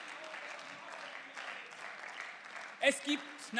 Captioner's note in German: Beifall